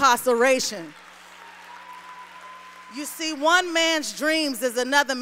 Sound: applause

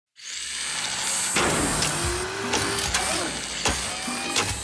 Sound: machine whirring

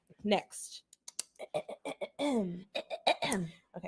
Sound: clears throat dramatically

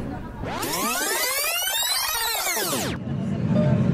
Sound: tape fast forwarding

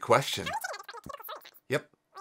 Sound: voice squeaking over phone

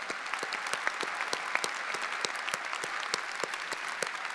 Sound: audience applauding

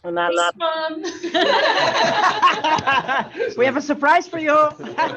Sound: all laughing

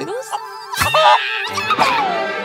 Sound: screams

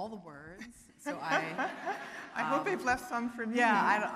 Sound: laughing

